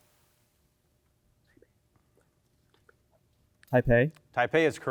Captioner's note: team whispers